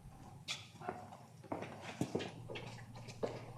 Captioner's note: foot steps